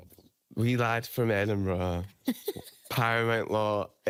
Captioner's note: laughing